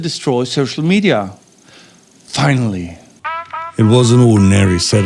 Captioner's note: voiceover